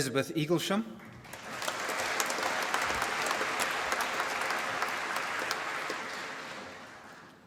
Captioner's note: applause